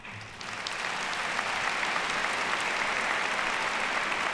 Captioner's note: audience applauds